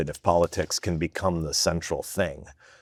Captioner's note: none